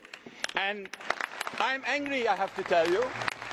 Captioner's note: crowd applauds